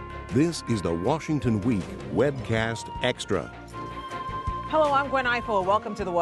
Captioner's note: voiceover